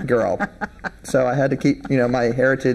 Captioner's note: laughing